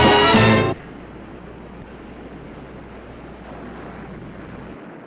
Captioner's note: waves crashing